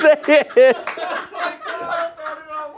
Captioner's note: everyone laughs